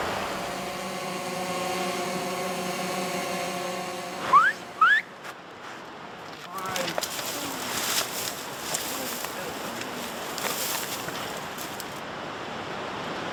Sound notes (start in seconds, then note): 0.0 drone buzzing; 4.8 man whistling